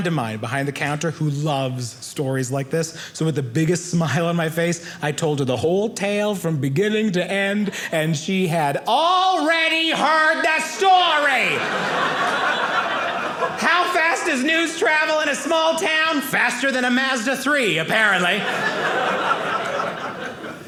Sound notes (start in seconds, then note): 10.8 audience laughing; 18.0 audience laughing